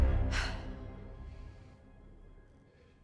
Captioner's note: Emma sighs